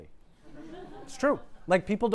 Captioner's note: laughter